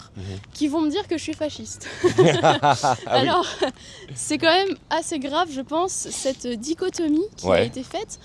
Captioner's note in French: rires